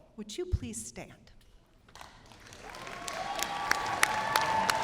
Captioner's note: cheers and applause; cheers and applause